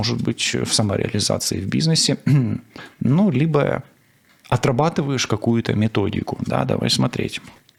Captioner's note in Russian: откашливается